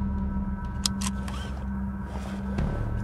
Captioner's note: seatbelt clacks; suspenseful music